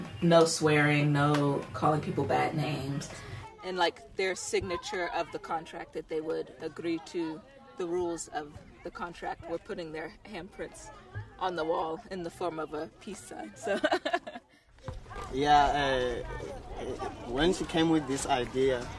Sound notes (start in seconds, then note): 13.6 laughs